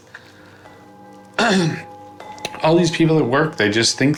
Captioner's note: clears throat